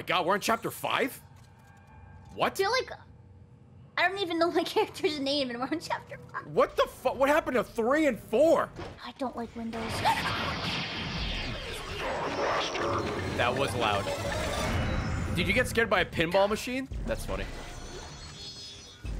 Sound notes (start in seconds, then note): 10.6 panics